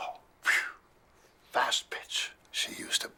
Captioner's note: imitates wind